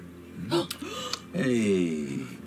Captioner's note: gasp